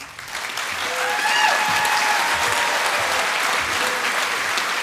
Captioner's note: applause